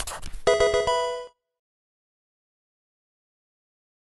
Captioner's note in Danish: videospil bipper